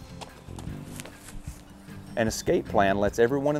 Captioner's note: quick footsteps